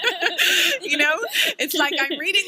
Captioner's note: laughter